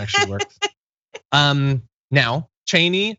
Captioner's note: laugh